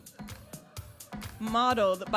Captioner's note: audience member cheering